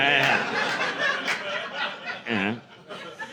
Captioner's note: laughter